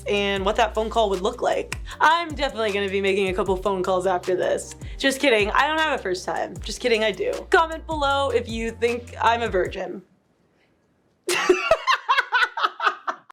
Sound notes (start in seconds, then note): 11.1 laughing